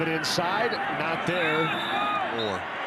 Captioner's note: referee blows whistle